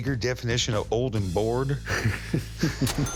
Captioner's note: laughter